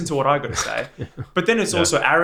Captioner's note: laughs